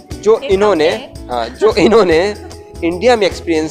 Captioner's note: both laughs